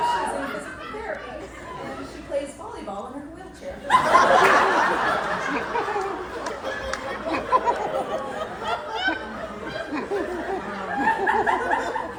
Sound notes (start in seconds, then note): 3.8 applause; 7.9 laughter